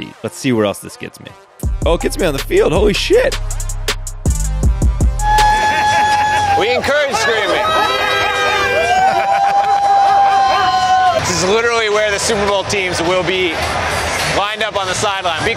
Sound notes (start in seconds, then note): 3.7 hip hop beat; 5.3 woman cheering; 7.5 crowd cheering